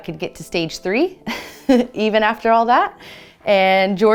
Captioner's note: chuckles